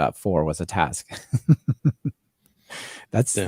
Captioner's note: laughs